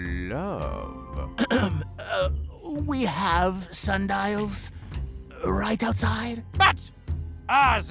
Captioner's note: clears throat